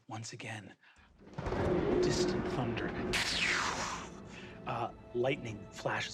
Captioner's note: thunder booming